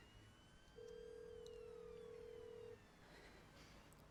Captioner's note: phone ringing